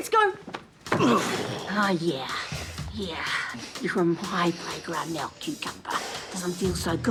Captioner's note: grunts